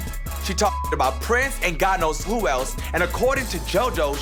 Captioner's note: beep